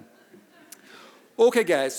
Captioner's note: audience laughing